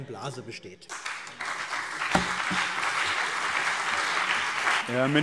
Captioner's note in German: Beifall CDU und BÜNDNIS 90/DIE GRÜNEN